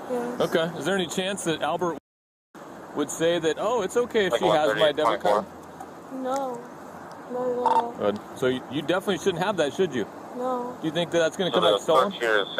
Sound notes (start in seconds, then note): 4.2 radio chatter